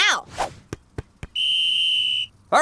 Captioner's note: whistle